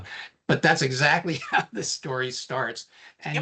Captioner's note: chuckling